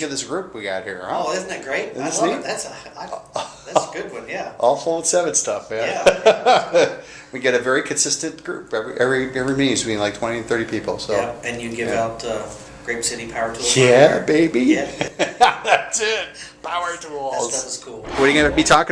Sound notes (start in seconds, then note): 6.0 laughter